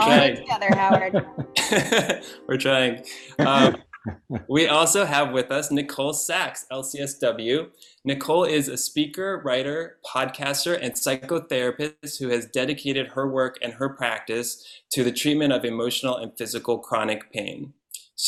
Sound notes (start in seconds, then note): 3.0 laughs